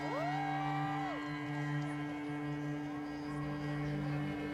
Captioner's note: crowd cheering